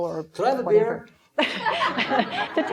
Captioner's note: laughing